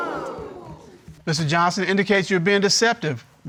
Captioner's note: exclaiming